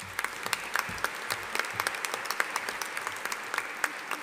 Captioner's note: audience applauding